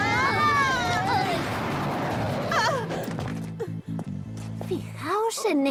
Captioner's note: grunting